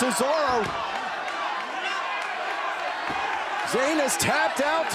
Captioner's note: crowd chattering